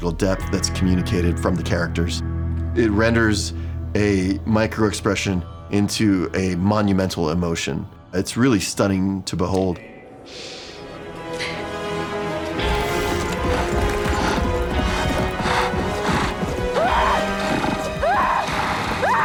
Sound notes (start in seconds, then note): 11.0 dramatic music playing; 16.6 yelps; 16.7 screaming